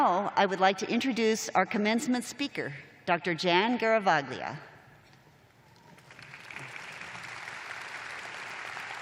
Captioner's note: applause